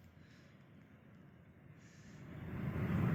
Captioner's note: engine noise